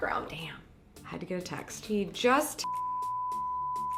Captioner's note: beep